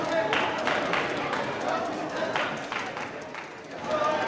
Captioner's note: crowd cheering; applause